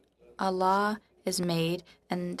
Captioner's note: speaking French